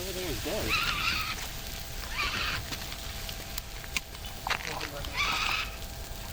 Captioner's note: fire extinguisher whirring